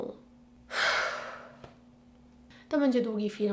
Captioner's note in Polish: Westchnienie